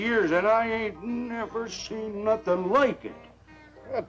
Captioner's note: none